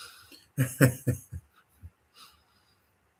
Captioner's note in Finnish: naurua